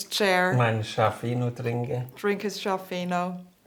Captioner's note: speaks German